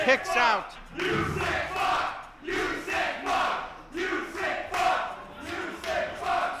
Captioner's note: crowd